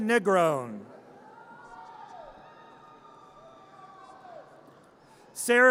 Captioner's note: audience cheers